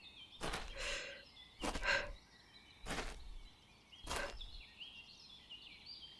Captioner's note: approaching footsteps